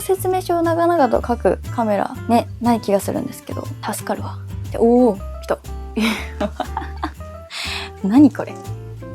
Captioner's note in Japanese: 笑い